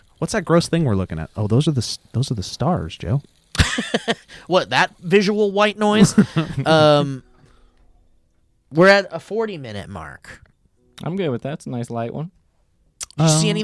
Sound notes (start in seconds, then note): 3.6 laughs